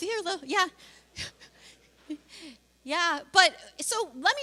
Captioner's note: laughs